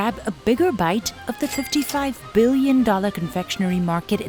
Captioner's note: cash register ka-chings